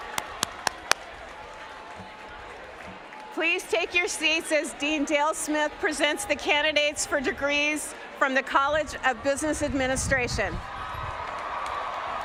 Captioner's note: cheers and applause